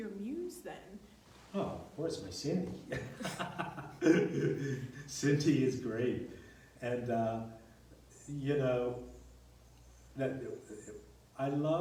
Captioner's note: laughs